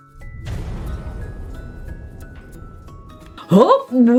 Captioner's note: loud exploding; pleasant music